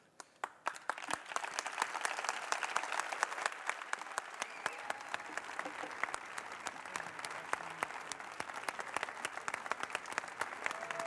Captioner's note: applause, cheering